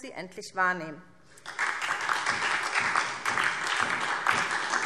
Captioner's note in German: Beifall SPD und DIE LINKE